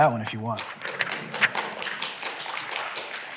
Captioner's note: applause